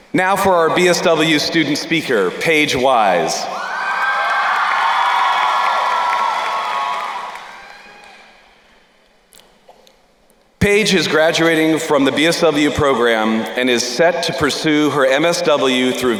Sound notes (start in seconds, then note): 3.6 crowd cheering and applauding